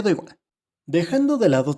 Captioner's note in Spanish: Silencio